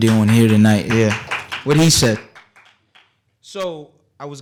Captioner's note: applause